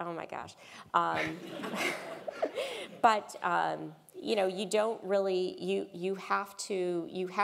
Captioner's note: laugh